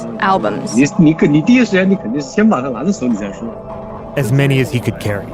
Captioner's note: speaking Mandarin Chinese